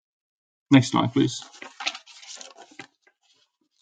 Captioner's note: page turning